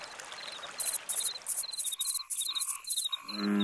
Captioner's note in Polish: dźwięk płynącej wody; ćwierkanie; rechotanie